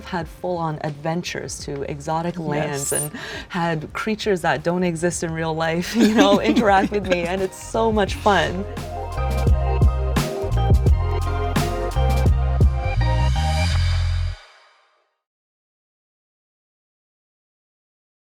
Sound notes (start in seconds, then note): 5.9 laughing; 8.6 chill music